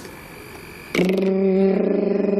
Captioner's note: imitates device